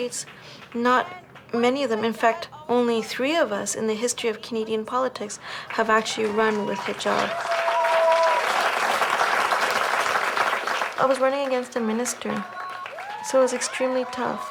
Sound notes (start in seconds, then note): 7.8 applauses